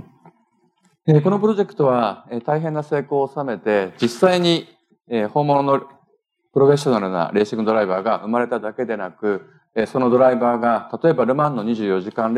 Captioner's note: speaking japanese